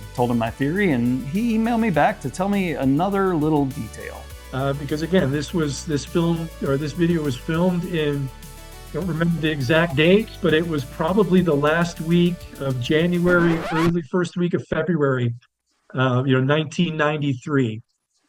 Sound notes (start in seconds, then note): 13.0 SFX: record scratch